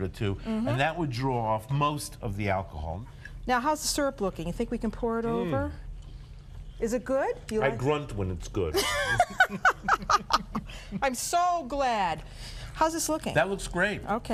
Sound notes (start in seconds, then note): 8.7 laughter